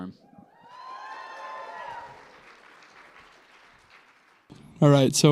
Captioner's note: applause